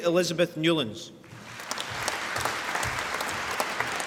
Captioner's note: applause